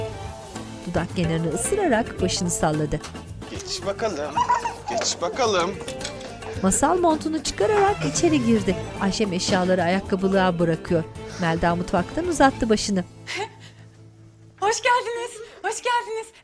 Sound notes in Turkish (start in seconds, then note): 6.3 Gülme sesi; 9.2 Kapı kapanma sesi; 13.1 Gülme sesi